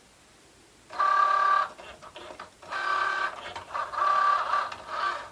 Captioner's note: machine whirring